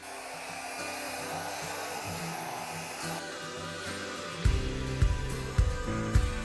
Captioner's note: blow dryer blowing; light upbeat music